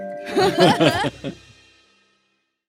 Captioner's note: laughing